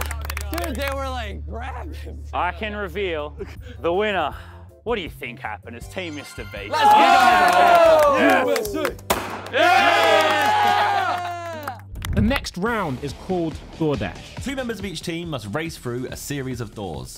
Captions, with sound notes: - Dude, they were like grabbing me. - I can reveal the winner. What do you think happened? It's team Mr. Beast. - Let's go! [contestants cheering] - USA! [confetti popping] [contestants cheering] - The next round is called DoorDash. - Two members of each team must race through a series of doors.